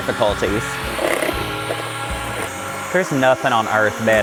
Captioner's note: mixer whirring